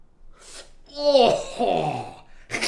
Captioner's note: gagging